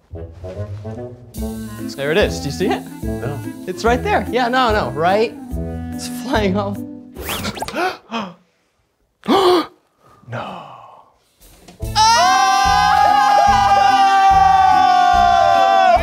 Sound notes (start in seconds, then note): 0.0 playful music continues; 7.3 both gasp; 11.9 everybody screams